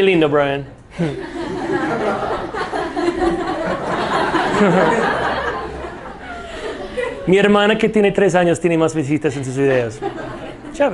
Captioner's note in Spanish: risas